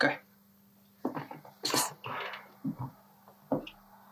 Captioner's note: shoes clacking